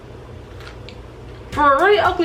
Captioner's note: cookie crunches